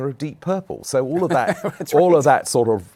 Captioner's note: laughing